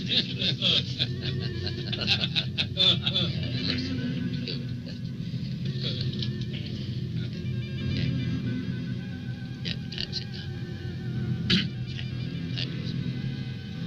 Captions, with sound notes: - (laughing) yes, humorous. (dramatic music) Jack? Jack, (dramatic music)